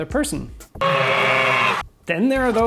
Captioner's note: scream